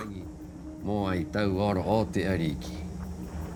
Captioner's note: man speaking Rapanui